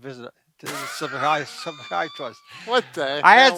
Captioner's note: laughs